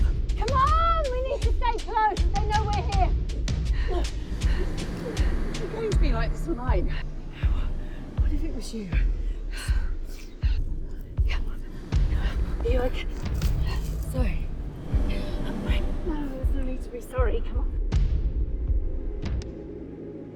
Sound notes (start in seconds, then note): 9.0 all gasping